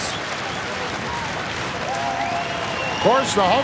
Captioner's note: audience cheering and applauding